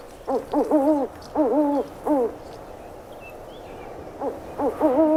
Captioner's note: birds hoot